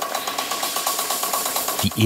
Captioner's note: hissing